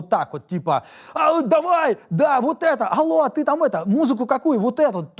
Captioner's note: incoherent, excited shouting